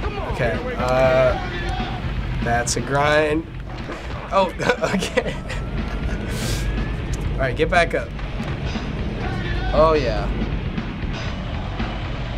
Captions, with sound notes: - Okay, uh... that's a grind. Oh, (chuckling) okay. All right, get back up. - Oh yeah.